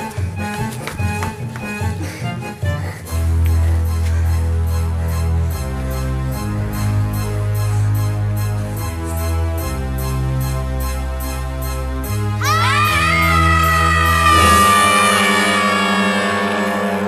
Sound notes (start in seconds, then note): 3.8 panting; 12.4 both screaming